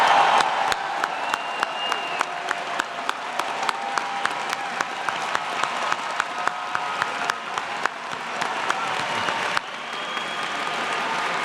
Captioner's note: applause